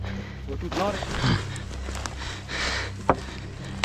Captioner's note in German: Lautes Atmen